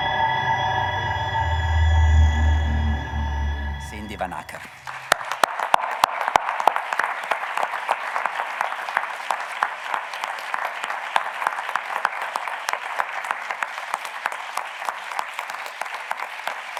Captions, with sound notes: Cindy Van Acker. (audience clapping)